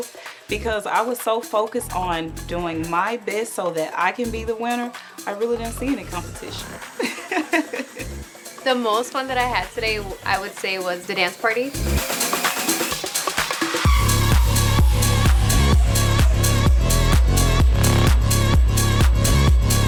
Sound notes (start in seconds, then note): 6.7 laughs; 12.1 energetic music